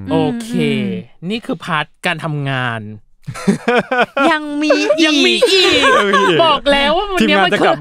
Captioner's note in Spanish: Risas